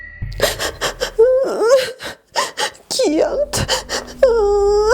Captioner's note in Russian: плачет